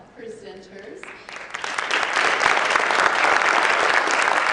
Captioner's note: applause